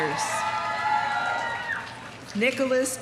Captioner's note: audience applauding; audience cheering